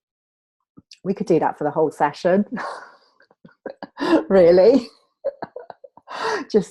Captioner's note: laughs